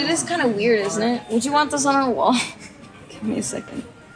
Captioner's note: laughs